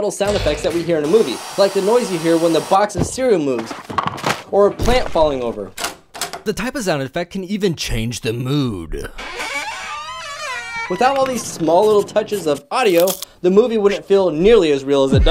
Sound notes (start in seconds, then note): 9.0 scary door opens